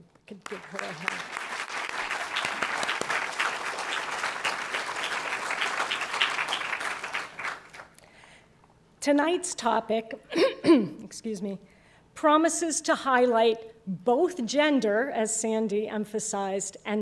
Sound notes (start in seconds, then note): 5.9 applause; 10.3 cough